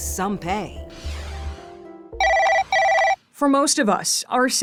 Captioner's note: screen swooshing; phone ringing